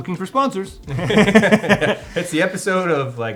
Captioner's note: laughs